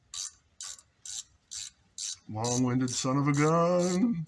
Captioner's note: none